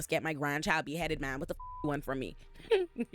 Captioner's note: beep